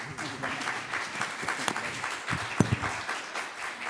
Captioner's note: clapping